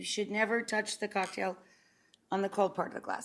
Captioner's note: glasses clink